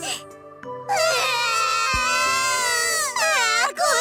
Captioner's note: sob